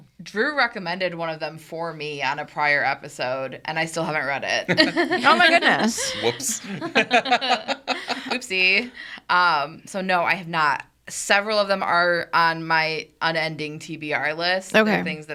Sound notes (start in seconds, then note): 4.6 group laughs; 7.8 laughing